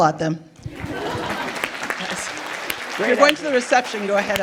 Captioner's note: everyone applauding